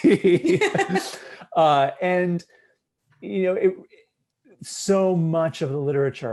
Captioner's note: laughter